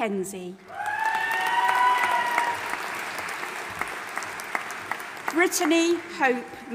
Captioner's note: audience applauding and cheering